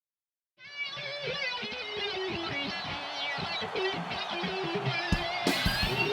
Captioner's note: crowd cheering; upbeat rock music